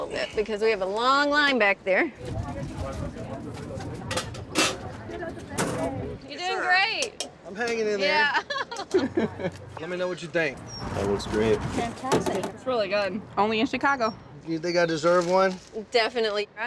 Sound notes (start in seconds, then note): 2.4 people chattering